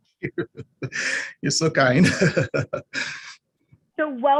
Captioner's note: laughter